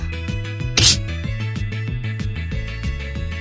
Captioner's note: crash!